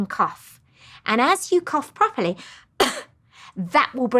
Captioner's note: coughs